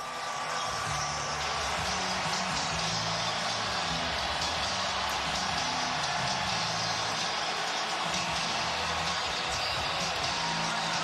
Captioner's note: cheers and applause